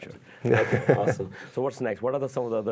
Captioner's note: laughter